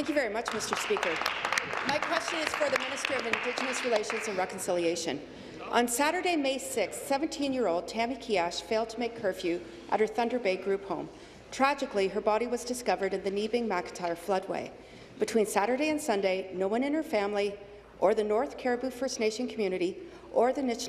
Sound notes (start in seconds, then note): 4.8 applause